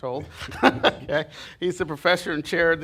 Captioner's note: laughter